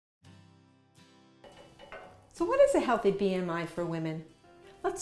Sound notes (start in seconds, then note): 1.4 gentle music; 1.4 metal clanking